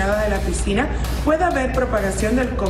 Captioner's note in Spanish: audio en ingés